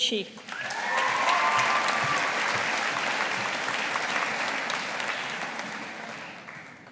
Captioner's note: audience applauding